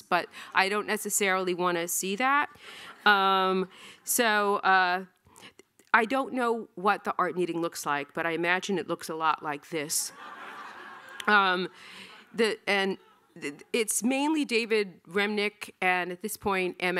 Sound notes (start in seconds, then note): 10.1 audience laughing